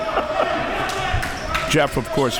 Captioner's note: chuckles